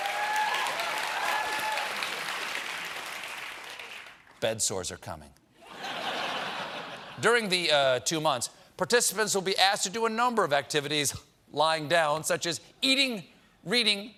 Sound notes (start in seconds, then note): 0.0 cheers and applause; 5.6 laughter